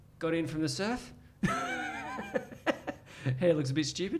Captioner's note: laughs